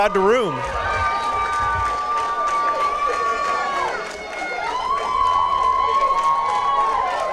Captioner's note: cheering and applause